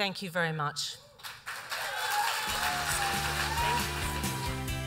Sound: applause and cheers

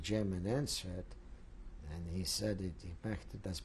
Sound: speaking german

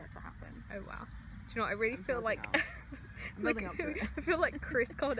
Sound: laughs

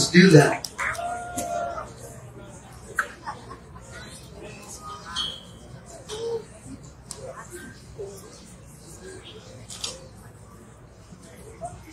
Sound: voices muttering

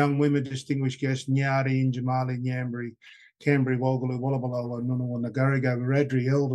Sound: speaking traditional language

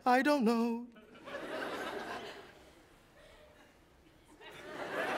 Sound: audience laughs

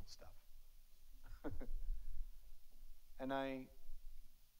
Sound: laughs; audience laughs

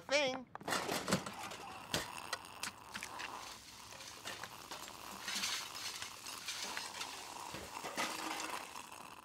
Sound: distant other sound effects, Orel slurping

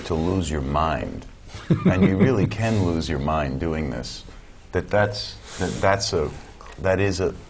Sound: chuckle

